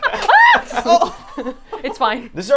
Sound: all laughing; screaming

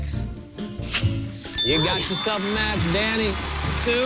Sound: chime

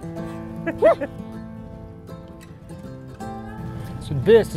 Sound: laughs

